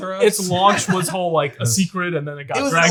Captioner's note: chuckles